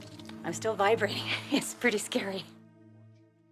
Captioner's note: chuckles